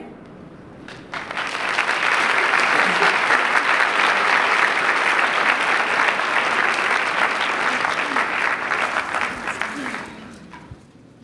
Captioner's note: applause